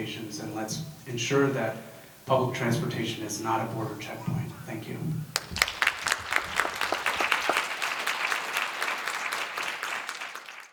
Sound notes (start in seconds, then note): 5.3 applause